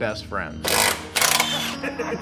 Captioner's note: hand drill screeching; laughs